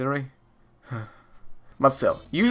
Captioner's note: sigh